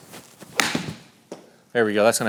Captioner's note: golf ball thwacking